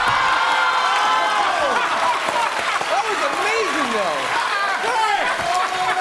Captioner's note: cheers and applause; laughs